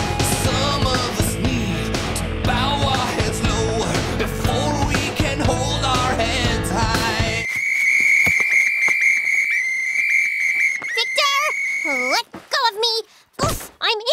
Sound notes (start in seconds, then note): 7.4 whistling